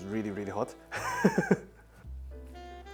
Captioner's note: laughs